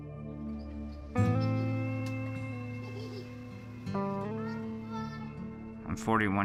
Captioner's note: kids talking and laughing